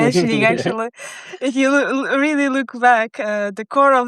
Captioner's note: laughing